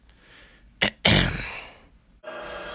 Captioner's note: clears throat